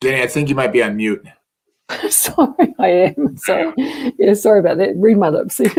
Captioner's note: laughter